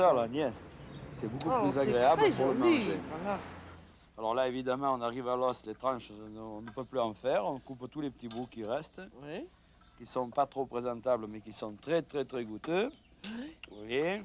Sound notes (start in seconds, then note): 0.2 both speaking French; 3.6 conversing in French